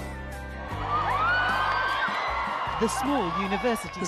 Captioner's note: crowd cheering; voiceover